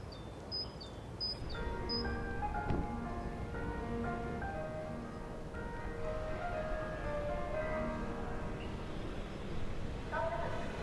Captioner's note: school bell